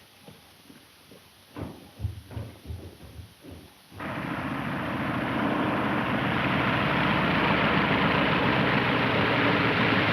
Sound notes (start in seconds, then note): 1.5 footsteps pattering; 4.0 airplane engine revving